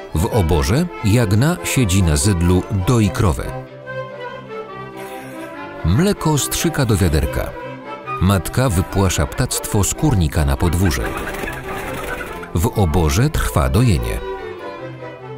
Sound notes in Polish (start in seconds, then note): 10.6 gdakanie, furkot skrzydeł; 12.7 skoczna muzyka